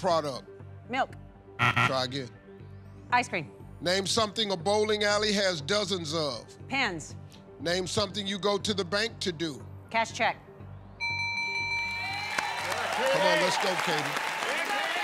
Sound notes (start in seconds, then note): 1.6 buzzer; 11.0 bell rings; 11.9 cheers and applause